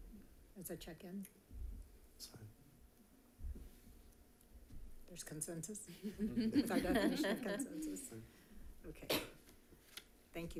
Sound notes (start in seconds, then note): 6.0 all laughing